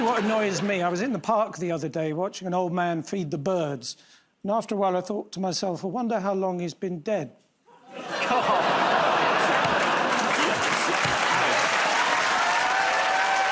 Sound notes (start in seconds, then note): 7.6 audience groans; 10.7 cheers and applause